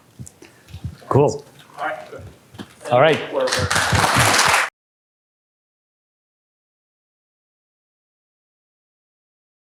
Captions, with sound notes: Cool. All right then. All right. [APPLAUSE]